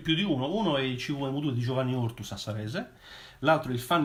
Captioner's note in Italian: sassarese